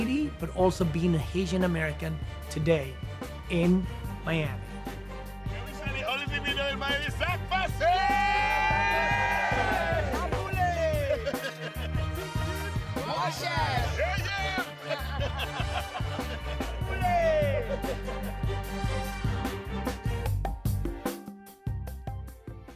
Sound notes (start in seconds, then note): 5.5 cheering, laughter; 14.6 laughter